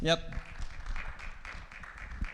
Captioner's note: attendees applauding